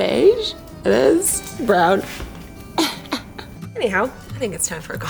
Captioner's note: laughs